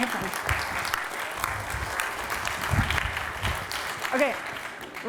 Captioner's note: applause